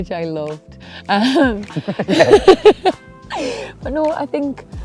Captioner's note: laughter